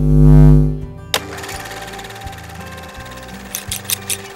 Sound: movie camera rolling; scissors cutting

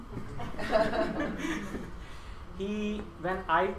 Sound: laughter

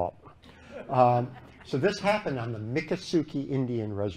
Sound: laughter

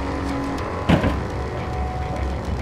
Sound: door Shuts

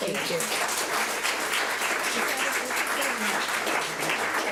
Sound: public applauding

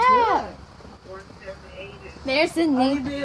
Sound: woman on two-way radio

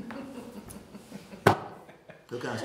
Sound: laughing

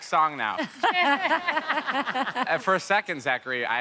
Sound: all laugh

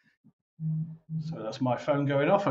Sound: buzzing

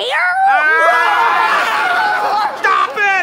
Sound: frantic screams

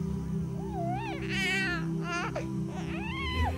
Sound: crying

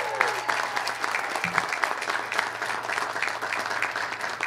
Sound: cheers and applause

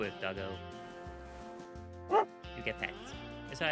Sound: dog barks

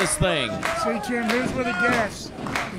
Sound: clapping

